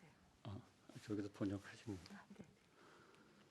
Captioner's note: speaking in Korean